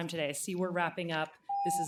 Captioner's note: timer tone